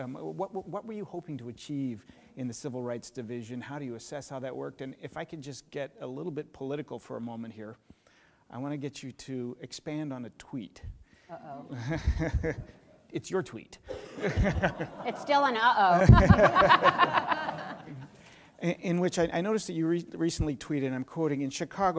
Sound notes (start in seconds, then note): 11.6 laughing